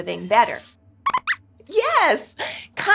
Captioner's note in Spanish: Squeaks chirría